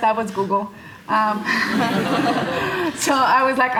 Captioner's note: audience laughing